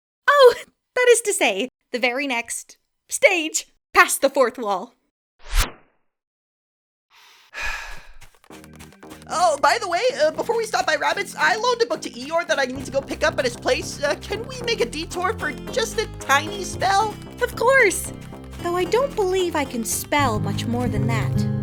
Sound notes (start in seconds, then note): 7.5 sighs